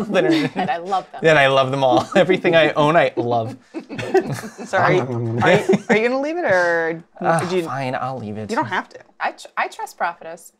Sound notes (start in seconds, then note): 4.1 eating noises